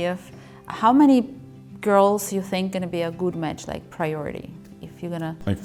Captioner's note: Ukrainian